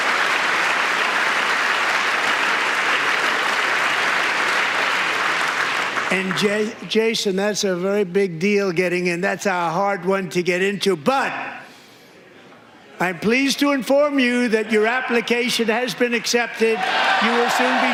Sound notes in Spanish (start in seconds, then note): 0.0 aplausos